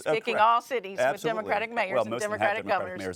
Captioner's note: overlapping chatter